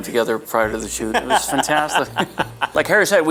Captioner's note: Harry laughs